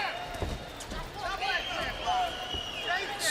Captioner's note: indistinct shouting